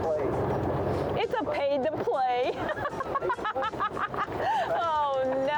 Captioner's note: laughs